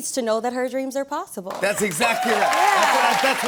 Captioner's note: cheers and applause